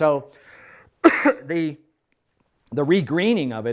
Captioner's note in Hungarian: köhögés